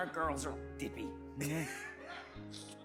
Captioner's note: both laugh